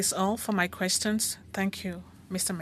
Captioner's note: speaking French